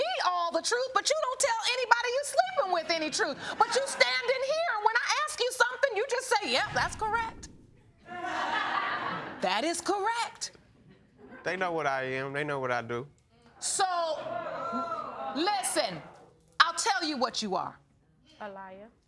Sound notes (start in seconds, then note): 8.0 audience laughing; 13.8 audience exclaims